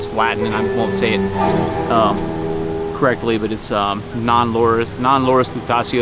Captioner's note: foreign language